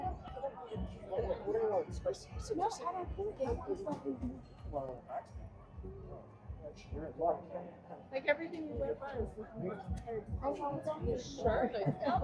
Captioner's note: people chattering